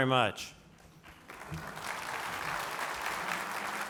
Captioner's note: applause